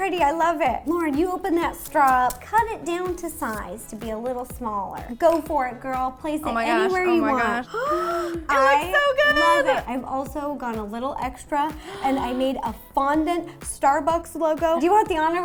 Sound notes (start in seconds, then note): 7.6 gasp